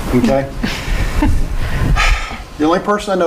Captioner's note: chuckling